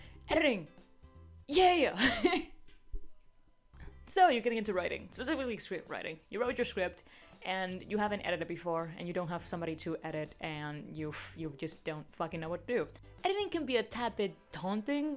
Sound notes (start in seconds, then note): 2.0 laughs